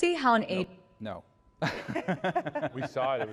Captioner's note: laughter